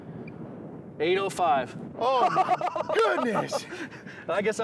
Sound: laughing

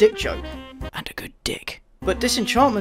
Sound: whispers

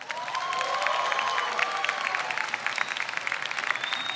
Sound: audience cheers

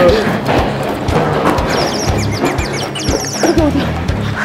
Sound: breathing hard

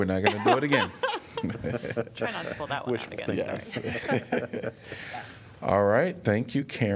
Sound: laughter

